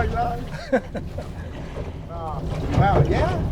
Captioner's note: laughing